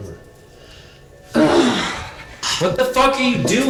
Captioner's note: woman groans